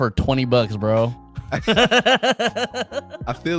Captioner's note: laughing